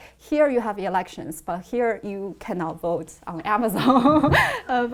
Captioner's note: laughs